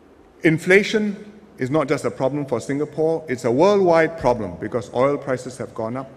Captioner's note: none